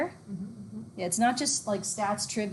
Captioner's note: murmurs in agreement